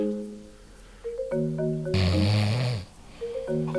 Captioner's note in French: ronflement